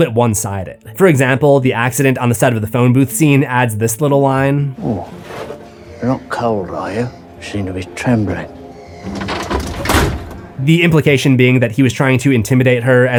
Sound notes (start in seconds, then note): 9.0 door closes